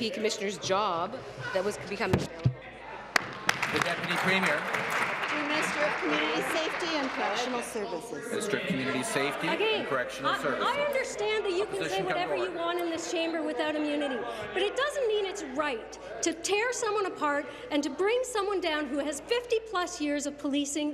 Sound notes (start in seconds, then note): 6.4 applause